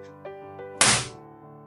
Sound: bang

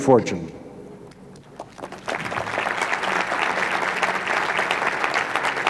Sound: clapping

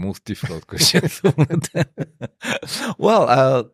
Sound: laughter

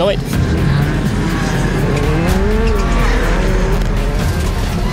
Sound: engines revving

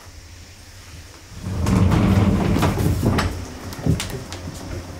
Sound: cicada sounds; sound of sliding door opening

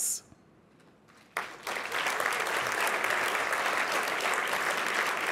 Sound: applause

